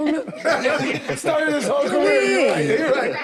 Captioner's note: group laughs